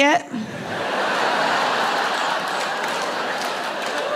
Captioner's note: audience laughing